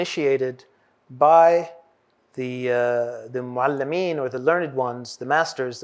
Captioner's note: non-english